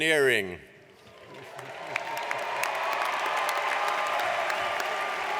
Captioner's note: audience applauds